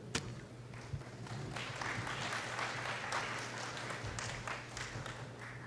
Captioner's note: applause